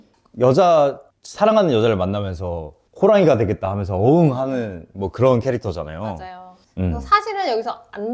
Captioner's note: roaring sound in Korean